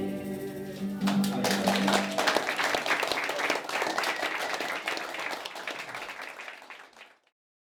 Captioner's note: applause